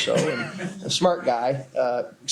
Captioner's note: laughter